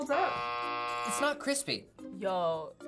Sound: buzzer rings

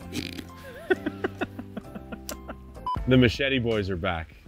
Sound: snorts and laughs

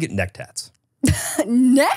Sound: laughs

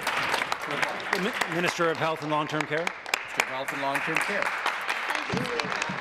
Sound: applause

